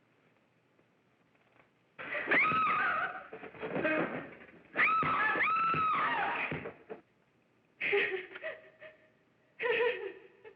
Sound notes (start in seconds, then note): 2.6 screaming; 2.6 thud; 4.7 screaming; 7.8 laughing